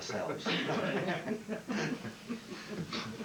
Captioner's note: all lgh